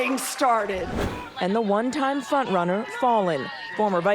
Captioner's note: applause